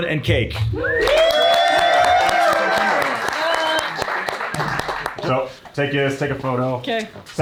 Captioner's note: everyone cheering and applauding